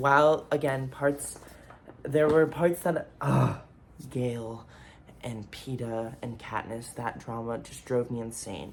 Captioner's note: big groan